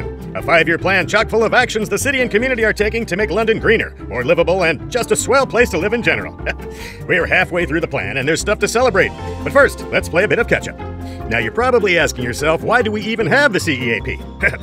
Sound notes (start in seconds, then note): 6.4 laughs